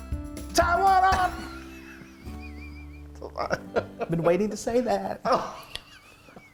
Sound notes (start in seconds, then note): 1.4 laugh